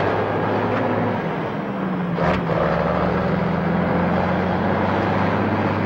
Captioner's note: engine whirring continues